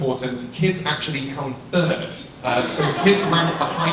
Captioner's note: audience laughs